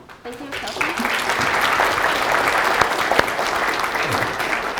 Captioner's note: audience applauding